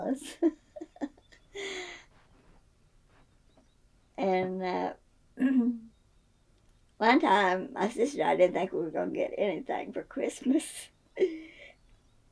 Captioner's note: laughs